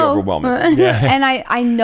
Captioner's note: chuckles